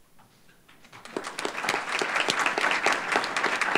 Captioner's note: applause